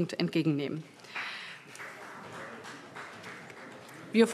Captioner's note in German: Beifall BÜNDNIS 90/DIE GRÜNEN